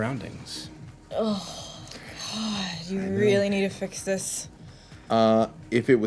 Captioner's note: sighs